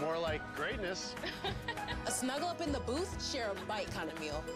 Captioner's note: laughs